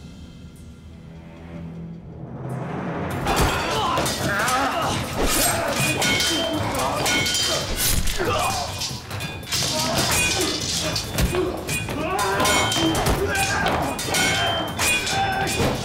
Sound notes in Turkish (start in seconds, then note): 3.2 Dövüş sesleri; 11.9 Bağırma sesi; 13.4 Dövüş sesleri